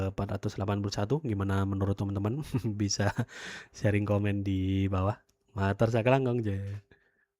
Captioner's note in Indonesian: tertawa